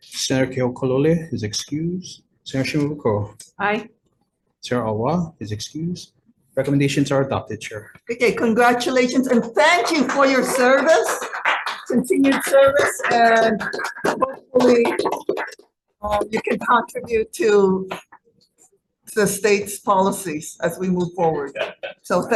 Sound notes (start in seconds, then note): 11.3 group applauding